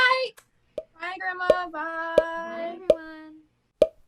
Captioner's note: pops as people leave